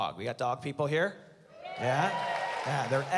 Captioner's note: cheering